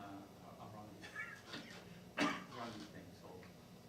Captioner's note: coughing